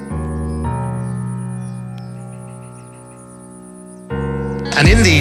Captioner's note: birds chirping